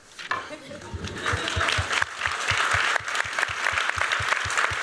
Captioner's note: applause